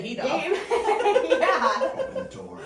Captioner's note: laughter